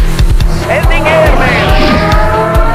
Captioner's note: nuclear siren